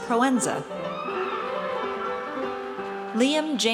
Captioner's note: audience cheers